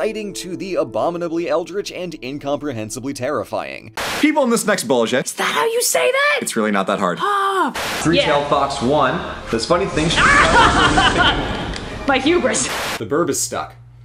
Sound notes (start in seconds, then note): 7.2 R: Ahhh!